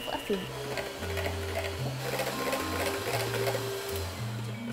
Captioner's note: mixer whirring